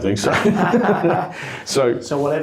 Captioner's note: both laugh